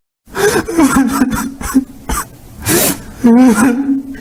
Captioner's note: Tank crying